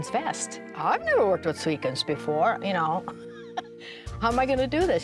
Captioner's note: laughing